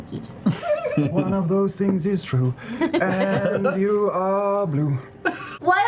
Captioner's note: drunkenly